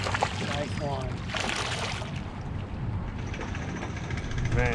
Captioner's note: fish splashing